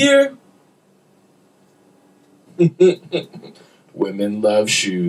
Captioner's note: laughter